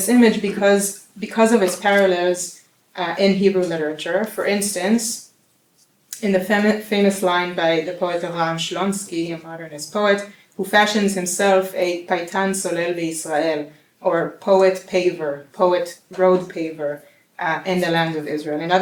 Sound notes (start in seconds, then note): 12.3 non-english speech